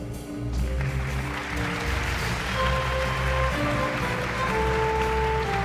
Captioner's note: exhilarating jazz music continues; guests applauding